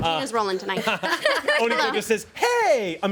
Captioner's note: everyone laughs